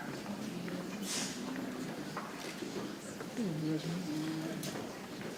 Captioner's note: people chattering softly